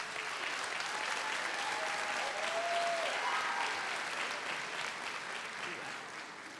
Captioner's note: audience applauds; audience cheers